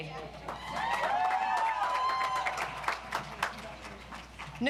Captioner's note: audience applauds